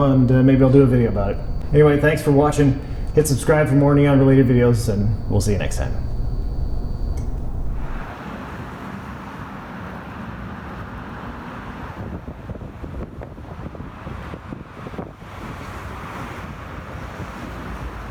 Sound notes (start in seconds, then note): 7.1 switch clicks